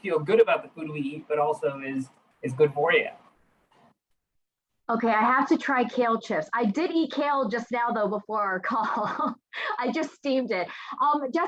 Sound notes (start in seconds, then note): 8.6 laughing